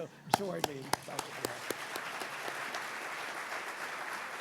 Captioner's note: audience applauding